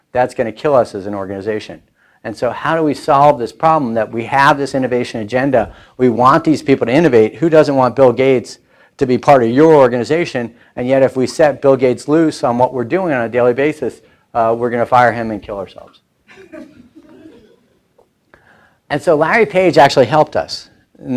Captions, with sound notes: That's gonna kill us as an organization. And so, how do we solve this problem that we have this innovation agenda, we want these people to innovate. Who doesn't want Bill Gates to be part of your organization? And yet if we set Bill Gates loose on what we're doing on a daily basis, we're gonna fire him and kill ourselves. (laughing) And so Larry Page actually helped us.